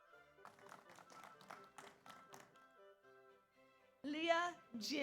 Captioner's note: audience applauds